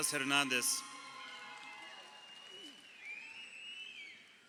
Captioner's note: crowd cheering